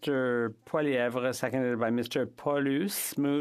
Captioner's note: speaking French